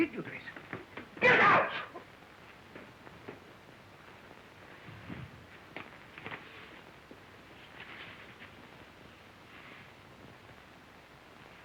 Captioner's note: shouting